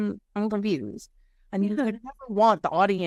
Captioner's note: voice muffling